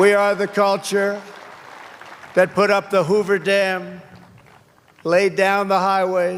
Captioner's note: cheers and applause